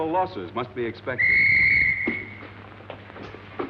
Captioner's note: whistle blows